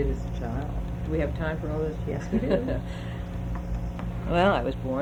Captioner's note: laughs